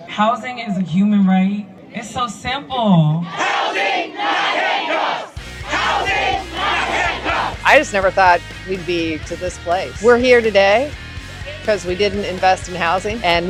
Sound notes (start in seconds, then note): 3.1 crowd